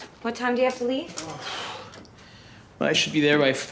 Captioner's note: sighs